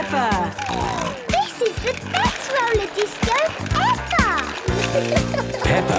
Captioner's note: snorting